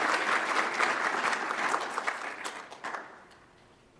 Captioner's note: audience applauds